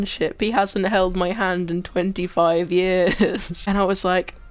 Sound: laughs

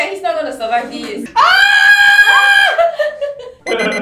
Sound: screaming

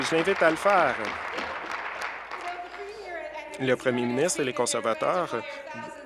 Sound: applause

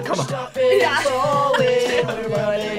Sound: laughs

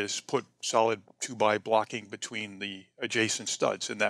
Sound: none

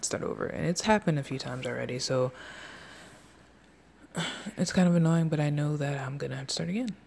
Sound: sigh

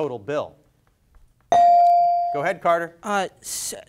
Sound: bell dings

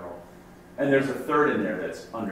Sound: voiceover

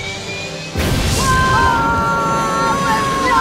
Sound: rocket blast

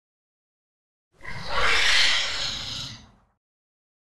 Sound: scream

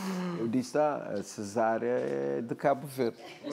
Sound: speaking portuguese

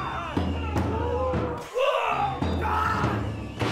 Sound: screaming

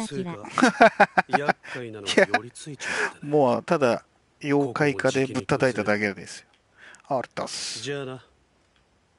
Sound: 笑い

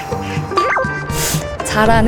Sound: inhale

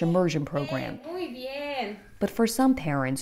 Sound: teacher speaking Spanish

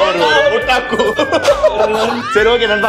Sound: laughs

